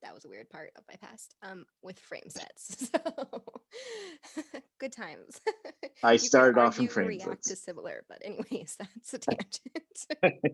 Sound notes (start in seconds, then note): 2.4 laughing; 9.1 laughing